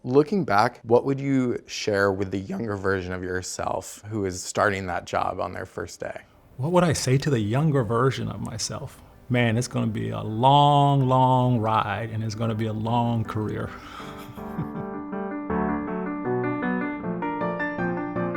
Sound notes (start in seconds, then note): 13.5 laughs; 15.0 gentle piano music